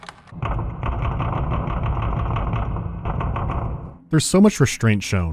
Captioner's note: frantic pounding